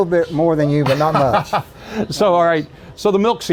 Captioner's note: laughing